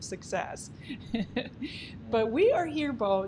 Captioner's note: giggles